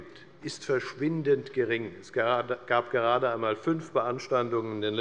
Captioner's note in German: none